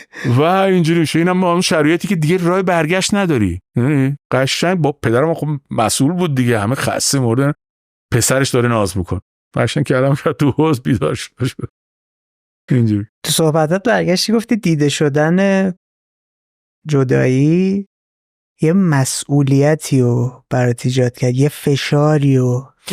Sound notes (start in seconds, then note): 11.5 laughs